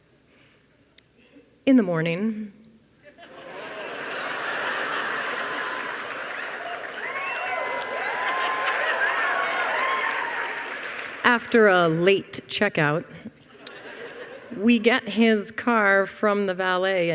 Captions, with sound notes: In the morning... [Audience laughter] After a late checkout, we get his car from the valet,